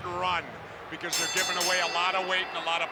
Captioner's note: bell ringing